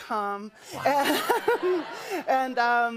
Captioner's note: laughter